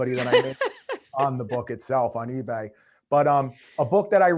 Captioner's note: laughing